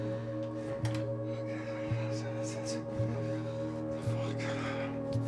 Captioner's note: dramatic music; man chattering